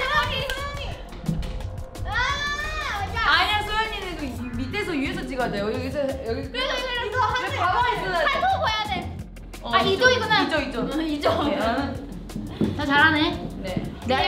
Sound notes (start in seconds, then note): 0.1 speaks in Korean